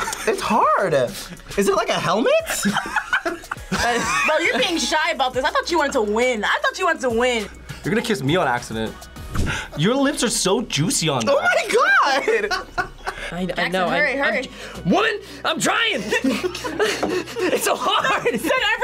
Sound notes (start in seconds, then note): 2.4 laughs; 11.9 both laugh; 16.0 both laugh